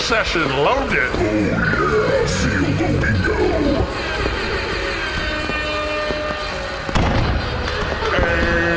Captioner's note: air horns, more fireworks